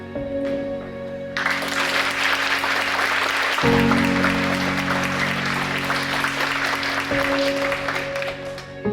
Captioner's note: applause from the audience